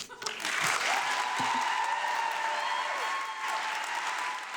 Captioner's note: audience applauding